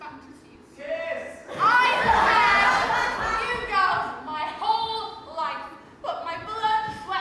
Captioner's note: audience: KISS!, followed by laughter